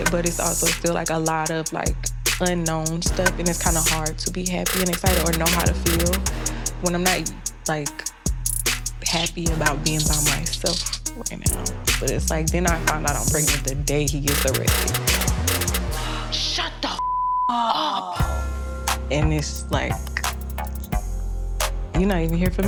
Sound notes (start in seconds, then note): 17.0 beep